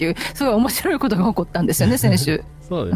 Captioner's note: laughter